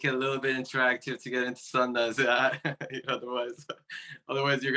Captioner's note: laughing